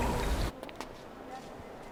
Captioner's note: footsteps